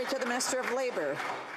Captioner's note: some Applause